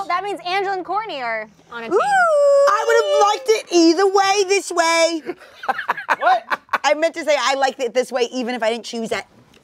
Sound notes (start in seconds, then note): 5.1 laughing